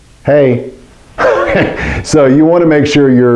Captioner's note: laughs